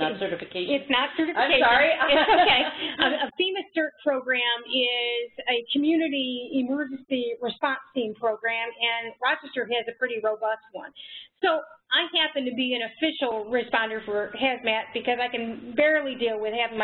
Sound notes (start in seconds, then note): 1.9 laughter